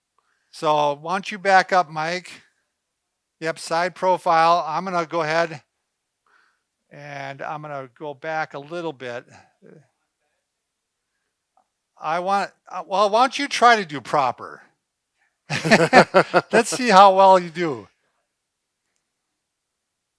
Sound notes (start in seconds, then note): 15.5 laughing